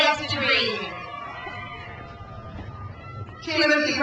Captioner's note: crowd cheers